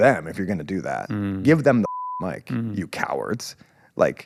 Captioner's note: beep